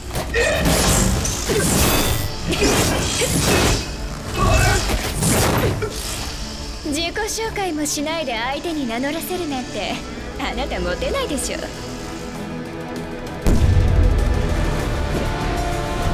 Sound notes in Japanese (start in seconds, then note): 13.4 爆発音